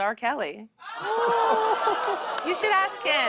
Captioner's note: audience oohs